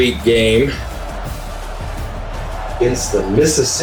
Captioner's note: crowd Noises